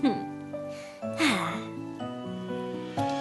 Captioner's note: chuckles; sighs